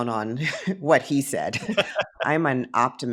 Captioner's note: laughing